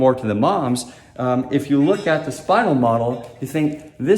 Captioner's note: metal clanging